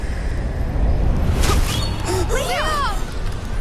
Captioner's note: grunts